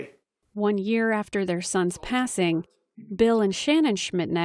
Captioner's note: voice-over